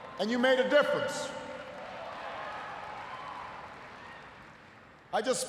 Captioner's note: cheers, applause